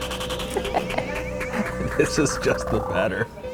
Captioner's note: laughs